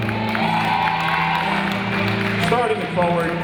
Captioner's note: audience applauding and cheering